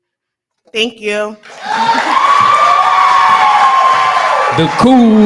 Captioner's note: cheering